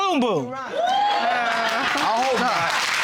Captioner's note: audience applauding